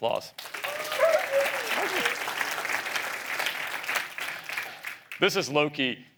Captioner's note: applause